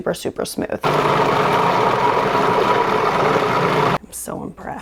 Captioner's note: machine whirring